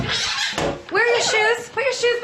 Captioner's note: squealing